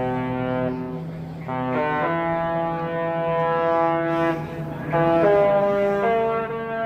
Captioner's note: Echos of the Love Boat horn